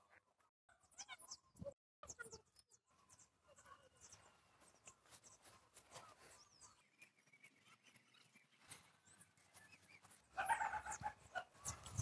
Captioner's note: bird, rooster, dog, sound